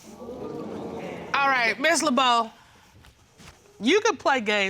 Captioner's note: audience groans